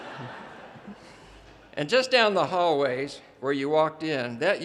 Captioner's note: audience laughter